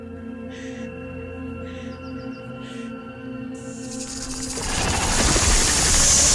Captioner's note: Rainey breathing deeply; snake hisses; snake rattles